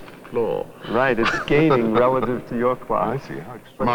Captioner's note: laughs